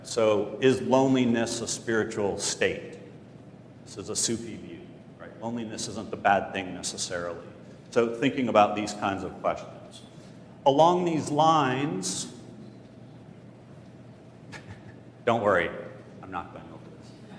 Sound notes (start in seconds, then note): 14.4 laugh